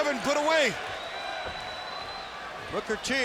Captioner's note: fans cheering